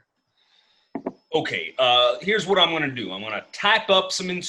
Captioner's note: drink clinks down